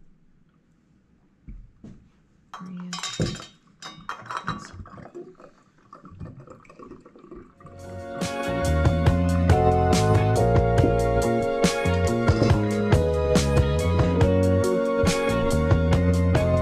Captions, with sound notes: (Clanking sounds) The finished product.